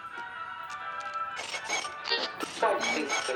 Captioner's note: Static